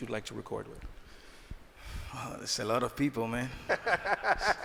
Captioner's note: laughing